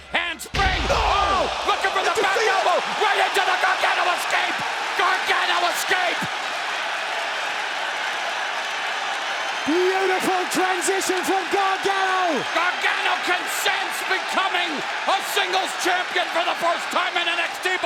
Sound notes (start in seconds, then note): 7.8 crowd cheers